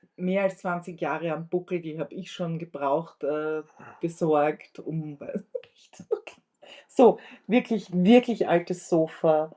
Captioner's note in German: gelächter